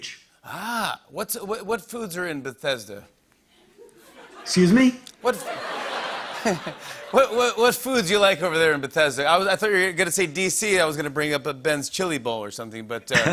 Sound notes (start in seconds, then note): 5.2 laughter